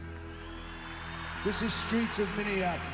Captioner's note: crowd cheering